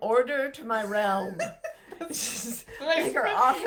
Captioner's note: laughs